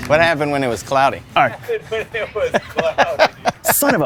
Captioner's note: laughs